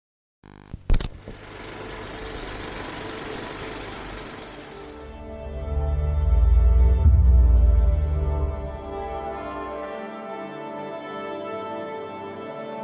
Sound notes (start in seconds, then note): 0.4 projector running; 7.2 classic music